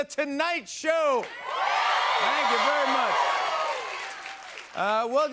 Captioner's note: cheers and applause